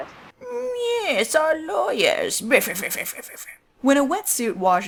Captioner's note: haughty laughter